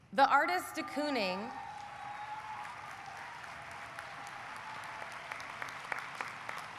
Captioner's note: audience cheering; audience applauding